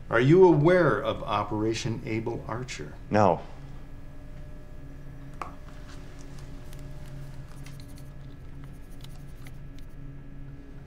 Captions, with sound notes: Are you aware of Operation Able Archer? No. [pencil scratching]